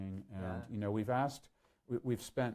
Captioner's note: none